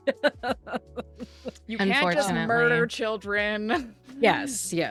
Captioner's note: laughs